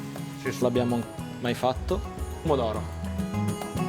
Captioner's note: speaking Italian